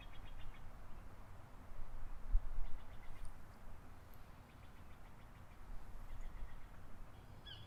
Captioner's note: birds chirping